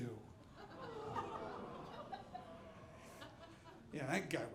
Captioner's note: audience laughing